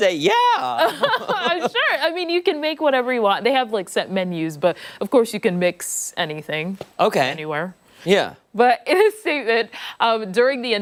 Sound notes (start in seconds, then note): 0.8 laughter